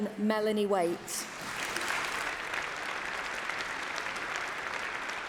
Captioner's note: applause